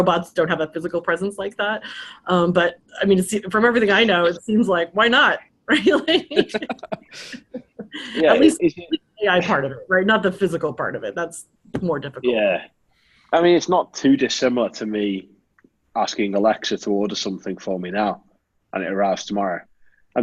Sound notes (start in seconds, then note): 5.8 all laughing